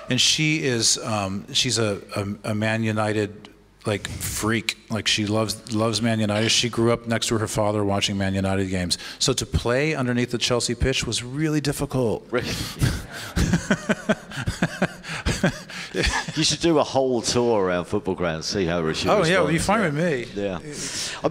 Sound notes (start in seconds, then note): 12.6 laughs